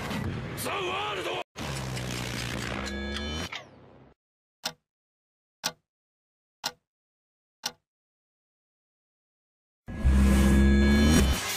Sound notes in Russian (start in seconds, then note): 1.7 пердёж; 9.9 пердёж наоборот